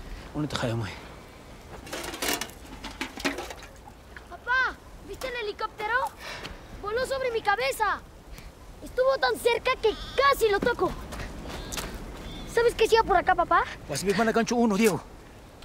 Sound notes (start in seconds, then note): none